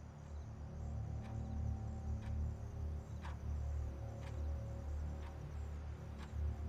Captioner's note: soft suspenseful music; clock ticking